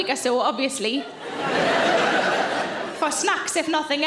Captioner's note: audience laughing